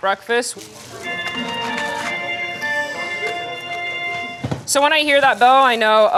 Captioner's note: announcement bell